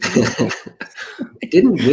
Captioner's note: laughs